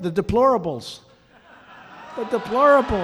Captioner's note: laughter